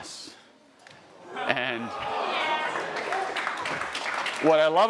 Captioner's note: audience cheering